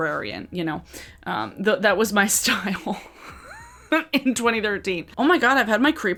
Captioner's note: laughs